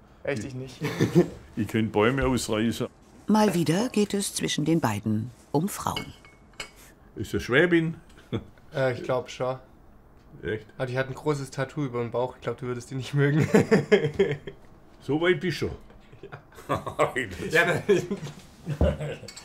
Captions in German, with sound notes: Echt? Ich nicht. - Ich könnte Bäume ausreißen. Mal wieder geht es zwischen den beiden um Frauen. Ist es eine Schwäbin? - Äh, ich glaube schon. Die hat ein großes Tattoo über dem Bauch, die würdest du nicht mögen. So weit bist du schon? - (lachend:) Ja. (Beide lachen.)